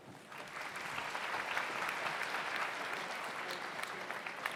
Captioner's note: audience applauds